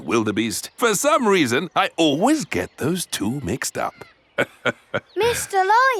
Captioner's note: laughs